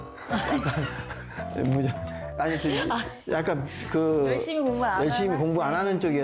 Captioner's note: laugh